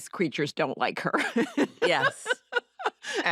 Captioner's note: laughs